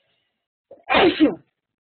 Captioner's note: sneeze